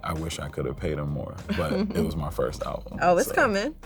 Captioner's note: laughs